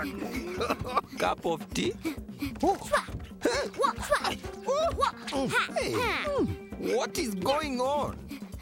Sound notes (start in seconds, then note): 1.9 Sema panting